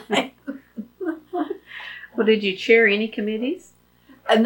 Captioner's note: laughs